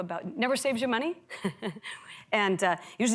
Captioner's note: laughs